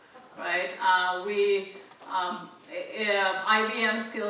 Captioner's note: audience chuckling